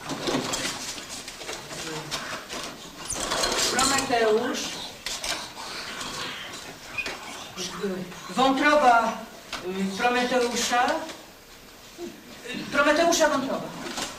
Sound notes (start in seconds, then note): 5.4 class whispering